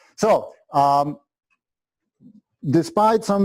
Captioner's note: pause